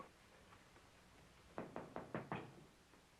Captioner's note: knocking